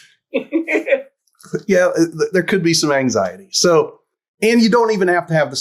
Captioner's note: laughs